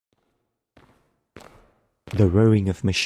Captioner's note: steps SFX